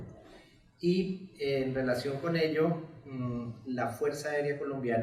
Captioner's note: speaks in Spanish